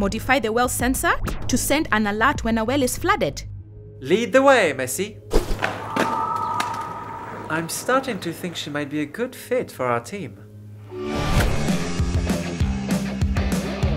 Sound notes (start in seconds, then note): 5.5 skateboard clatters; 11.5 rock music